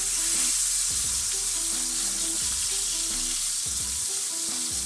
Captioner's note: sizzling